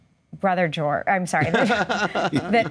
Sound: both laugh

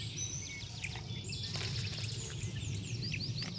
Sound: birds chirping

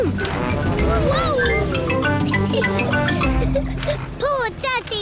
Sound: giggles

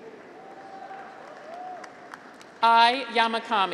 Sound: graduates cheer; audience applauds

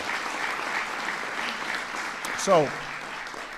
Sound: applause

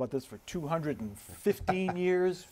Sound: laughter

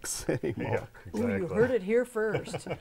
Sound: laughing

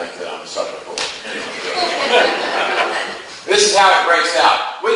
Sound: class laughs

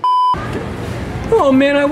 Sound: beeps

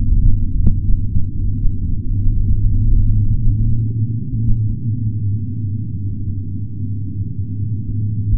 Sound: deep volcano rumbling

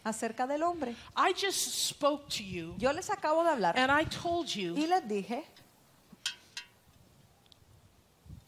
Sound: Spanish; Spanish

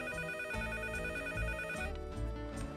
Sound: phone ringing

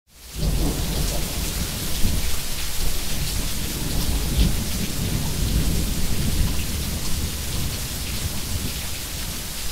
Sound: the sound of thunder and rain

